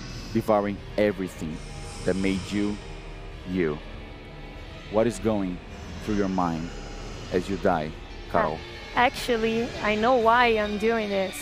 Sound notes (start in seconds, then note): none